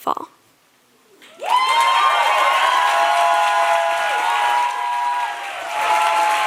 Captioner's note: audience cheering and applauding